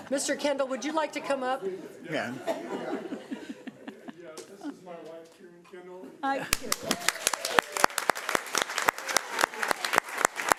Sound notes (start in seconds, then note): 6.5 applauding